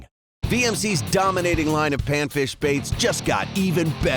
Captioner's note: voiceover